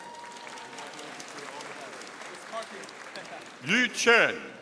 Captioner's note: audience applauding